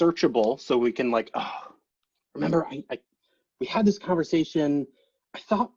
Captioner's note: sighs